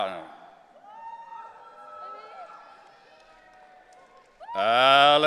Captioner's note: audience cheering